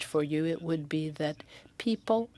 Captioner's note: speaking French